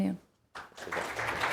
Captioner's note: applause